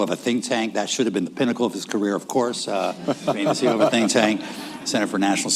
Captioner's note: laughter